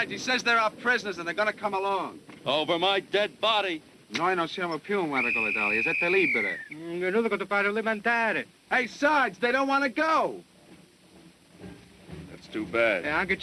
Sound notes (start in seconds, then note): 4.1 speaking italian; 13.2 speaking italian